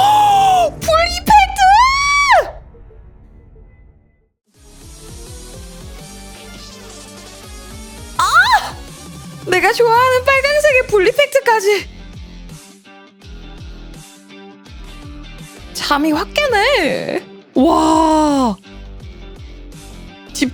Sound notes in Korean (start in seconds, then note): 0.0 비명